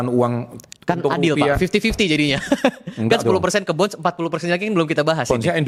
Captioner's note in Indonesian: tertawa